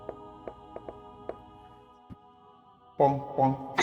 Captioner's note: wood clacking